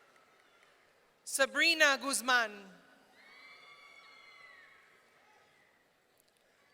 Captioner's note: audience cheering